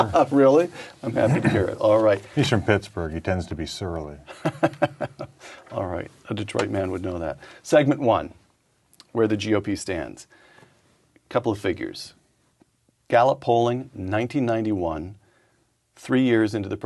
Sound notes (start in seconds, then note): 4.4 chuckle